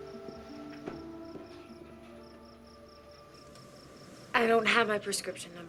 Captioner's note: crickets chirping